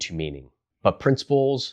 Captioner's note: beat